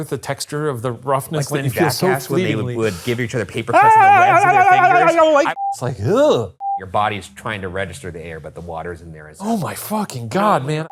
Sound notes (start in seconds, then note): 3.7 wailing; 5.2 screen beeping